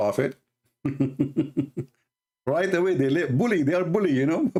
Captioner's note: Ketawa